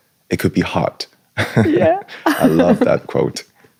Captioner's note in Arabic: ضحك